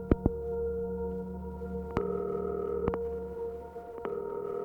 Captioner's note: phone ringing